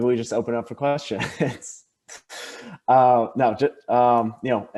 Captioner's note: laughs